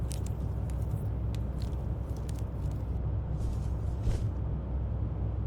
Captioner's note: cords rustling continues